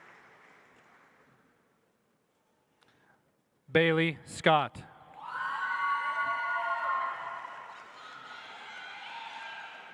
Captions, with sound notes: Bailey Scott. (audience applauds)